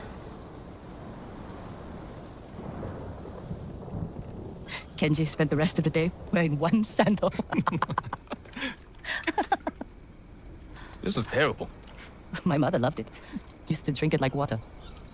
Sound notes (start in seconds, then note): 7.0 laughter